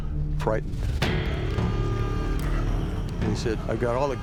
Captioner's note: alarm blaring